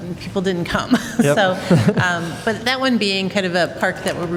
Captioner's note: laughter